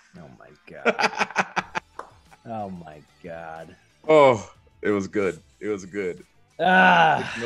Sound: laugh

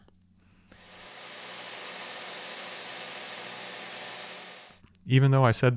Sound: machine whirring

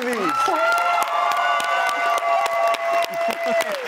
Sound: audience cheers

